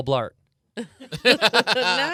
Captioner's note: group laughing